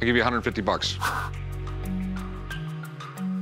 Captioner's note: swish